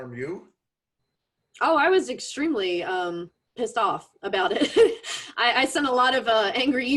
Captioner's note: laughs